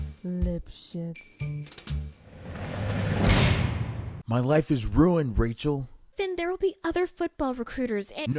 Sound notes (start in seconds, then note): 2.6 jail door slams shut